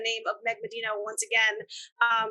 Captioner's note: none